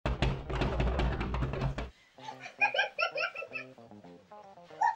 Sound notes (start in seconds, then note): 0.0 door knocking; 2.1 giggling